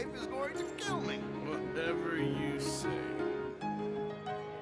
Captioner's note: laughing